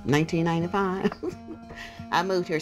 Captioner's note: laughs